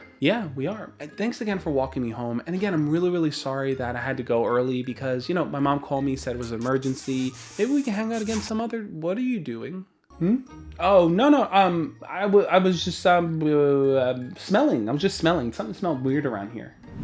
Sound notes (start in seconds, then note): 6.4 smooching sound